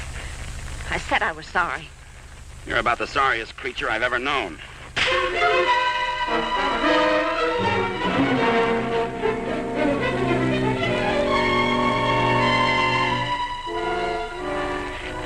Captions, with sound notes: - I said I was sorry. - You're about the sorriest creature I've ever known. (slap popping) (tense instrumental music)